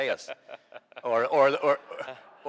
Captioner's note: laughing